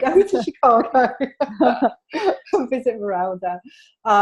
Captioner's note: laughter